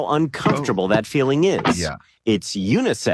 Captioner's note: tube crunching